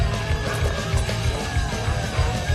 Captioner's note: frantumazioni di vetro